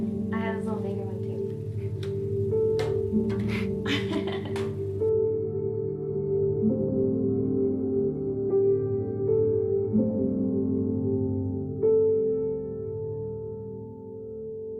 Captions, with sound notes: I have this little baby one, too. (Morgan laughing) (somber music)